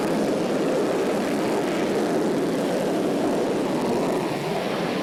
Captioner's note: jet engine roaring